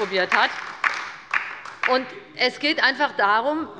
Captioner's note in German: Beifall bei der LINKEN